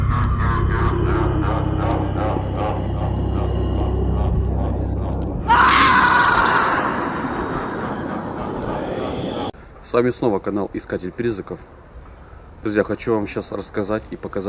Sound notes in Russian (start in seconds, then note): 1.1 стон; 5.4 крик